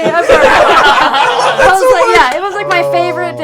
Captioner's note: laughter